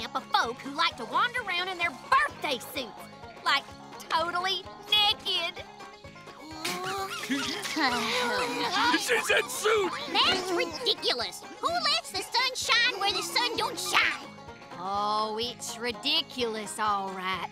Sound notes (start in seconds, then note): 6.4 sighing; 6.4 giggling